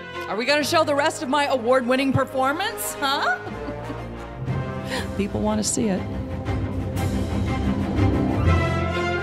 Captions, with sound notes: Are we gonna show the rest of my award winning performance, huh (laughs)? People wanna see it. (upbeat music)